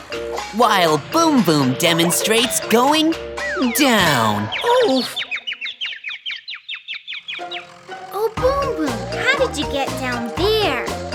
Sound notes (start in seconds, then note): 5.6 chirping